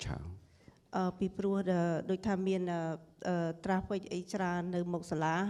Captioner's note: speaking foreign language